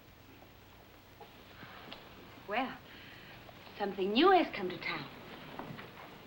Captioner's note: exhales